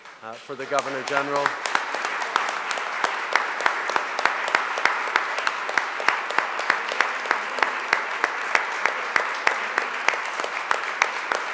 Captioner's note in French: Applaudissements nourris